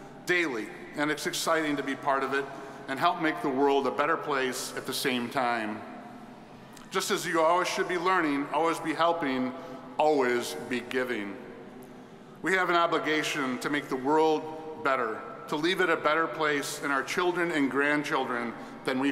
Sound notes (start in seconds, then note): none